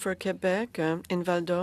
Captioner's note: speaking in French